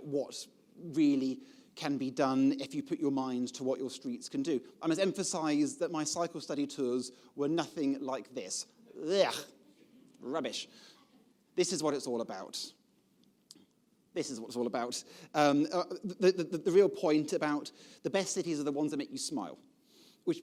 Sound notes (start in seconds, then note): 9.3 expressing disgust